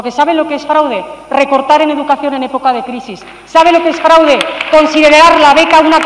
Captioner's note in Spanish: Aplausos